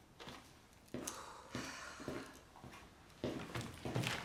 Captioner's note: both sighing